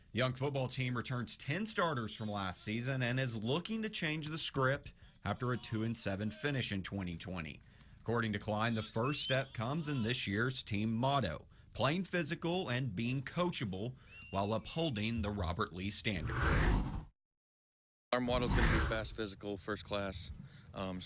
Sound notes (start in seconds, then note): 16.4 air whooshes